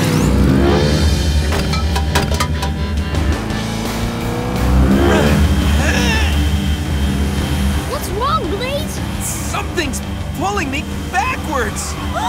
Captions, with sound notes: [grunting] What's wrong Blaze? Something's pulling me backwards.